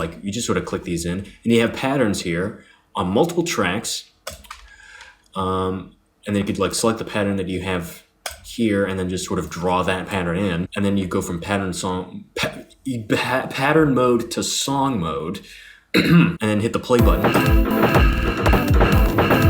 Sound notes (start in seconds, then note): 15.9 clears throat